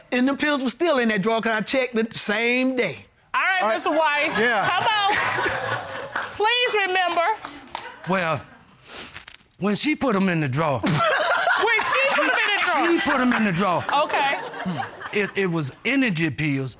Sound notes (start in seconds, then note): 10.9 laughs